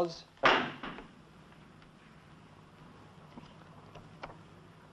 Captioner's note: gavel banging